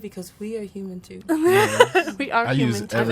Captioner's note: laughs